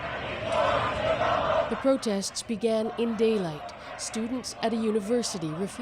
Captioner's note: chants